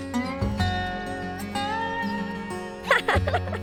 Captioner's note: chuckling